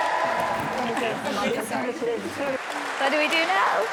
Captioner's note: talking in unison